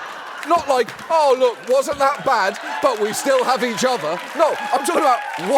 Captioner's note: laughter